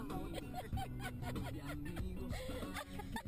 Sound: lots of laughter

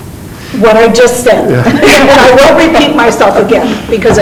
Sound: group laughing

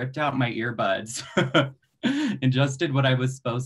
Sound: laughs

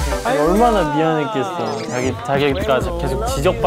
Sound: patting 3

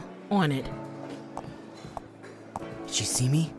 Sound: footsteps

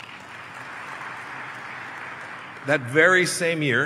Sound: applause

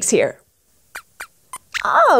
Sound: squeaks hiccups and squeaks

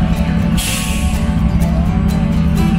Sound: country music; train steam; train engine

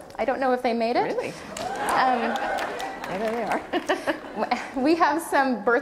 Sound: cheers; laughter

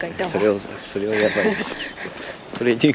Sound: laughs

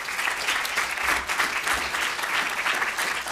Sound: applause

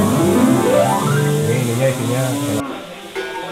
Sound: people sounds

